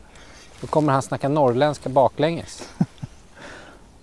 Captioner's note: northern accent